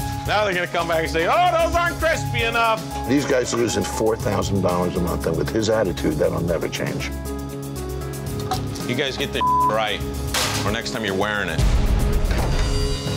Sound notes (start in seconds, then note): 9.4 beep